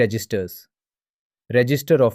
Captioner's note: pause